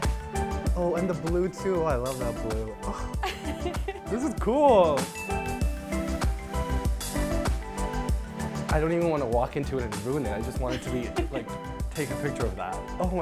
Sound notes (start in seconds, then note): 3.2 laughs; 5.1 bell dings